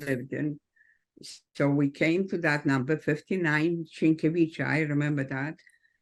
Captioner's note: speaks foreign language